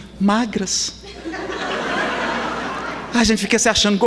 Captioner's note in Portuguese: risadas